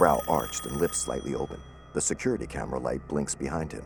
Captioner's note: ringing continues; ringing stops